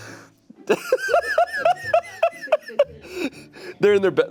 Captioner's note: playful music; laughing